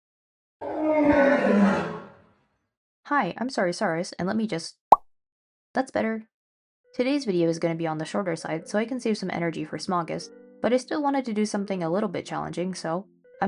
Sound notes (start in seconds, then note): 4.9 pop